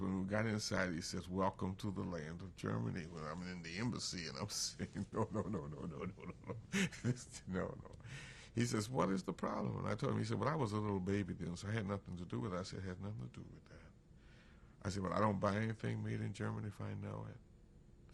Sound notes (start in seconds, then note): 4.7 laughs